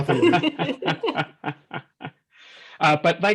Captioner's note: laughs